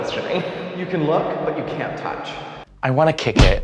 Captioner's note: heavy reverb; thud sound